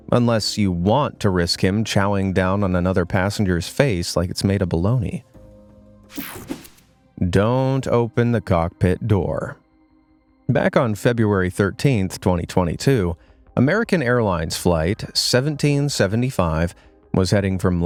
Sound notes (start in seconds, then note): 6.1 air whooshing